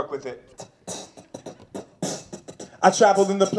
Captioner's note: beatboxing